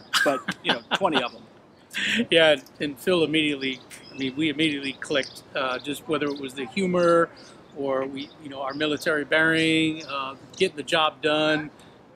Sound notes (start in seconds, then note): 0.1 laughs; 3.7 snaps fingers